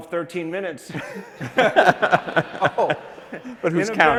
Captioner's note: laughter